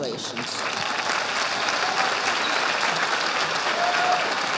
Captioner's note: audience applauding